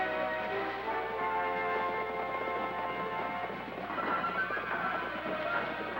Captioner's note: horses galloping